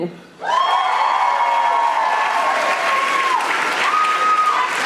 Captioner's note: audience applauding